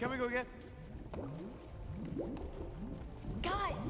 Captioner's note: lava bubbles